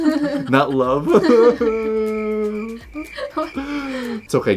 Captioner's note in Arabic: بكاء